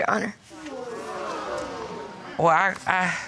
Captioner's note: audience gasps